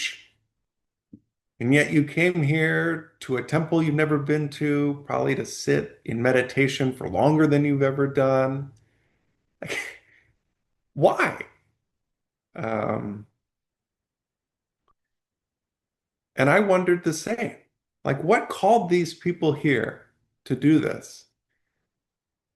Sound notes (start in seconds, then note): 9.6 laughs in disbelief; 12.5 pause